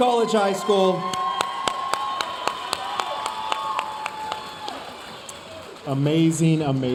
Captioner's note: audience cheering and applauding